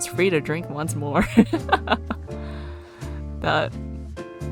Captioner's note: laughs